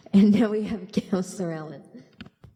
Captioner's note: laughing